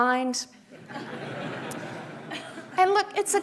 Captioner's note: audience laughing